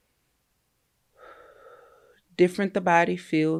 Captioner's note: breathes out